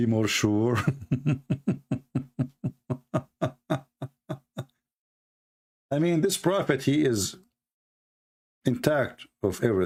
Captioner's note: Ketawa